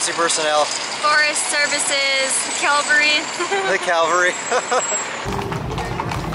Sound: laughter

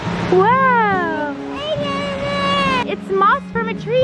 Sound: babbles

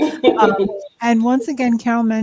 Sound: laughs

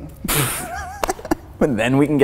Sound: laughing

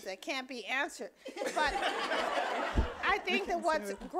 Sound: audience laughing

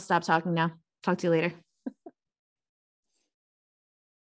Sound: chuckling

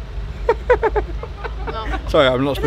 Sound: people laughing

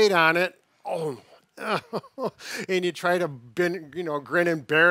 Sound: groans

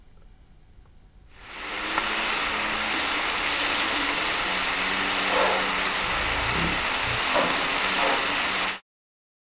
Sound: sound of food cooking

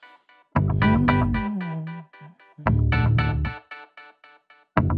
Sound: humming

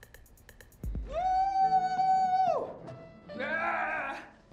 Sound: cheers, growls

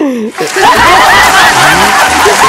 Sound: loud laughter

